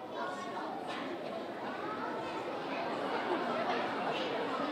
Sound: audience exclaiming

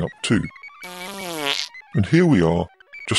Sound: passing wind

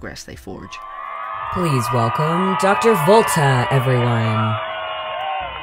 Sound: studio Applause

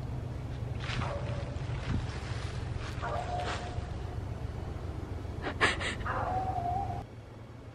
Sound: dog howls

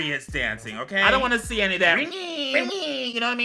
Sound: exclaims

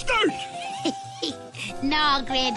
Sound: chuckles

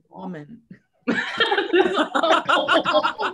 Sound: laughter

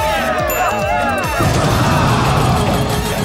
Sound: intense dance music; bell dings; jackpot dings

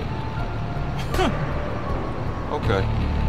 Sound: chuckle

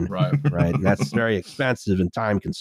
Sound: chuckles

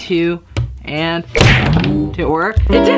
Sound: banging

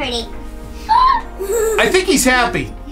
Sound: shrieks

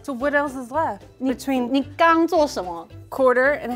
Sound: speaking in mandarin

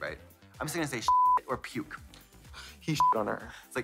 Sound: beep; beep

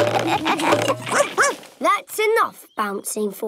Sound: all laugh; barks

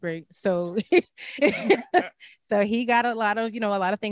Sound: laughs

